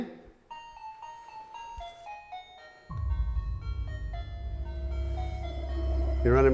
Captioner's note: motion sensor chime